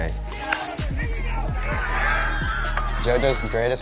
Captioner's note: crowd cheering